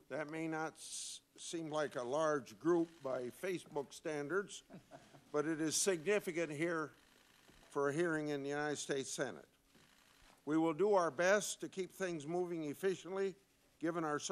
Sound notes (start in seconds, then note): 4.6 laughter